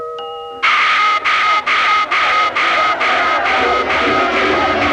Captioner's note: siren blare